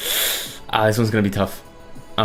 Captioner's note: inhales sharply